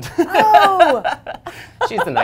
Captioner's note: laughter